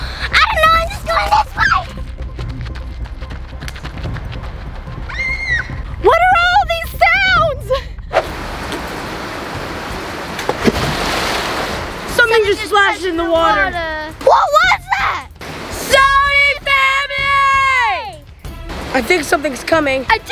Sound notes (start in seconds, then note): 5.0 screams; 10.7 water splashes